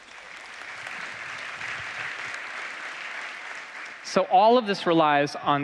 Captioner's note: applause